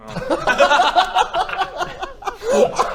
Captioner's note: fits of giggles